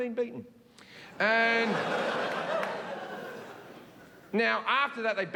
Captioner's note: audience laughing